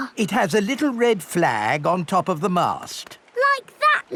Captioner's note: none